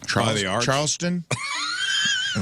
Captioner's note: laughing